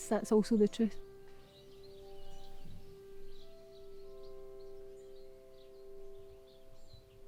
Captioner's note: birds chirping